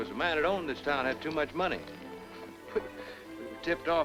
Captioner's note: chuckles